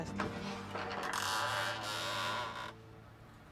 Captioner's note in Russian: Скрип двери